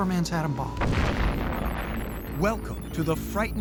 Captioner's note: explosion